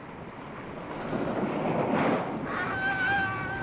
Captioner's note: wind howling; wind howling & waves crashing; man screams